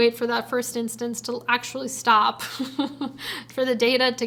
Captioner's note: chuckles